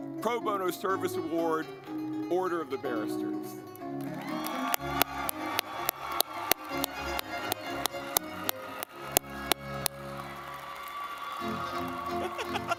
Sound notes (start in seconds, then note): 3.4 lively music; 3.8 audience clapping